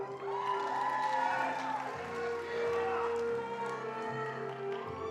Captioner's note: attendees applauding